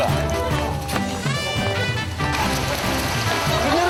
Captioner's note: applause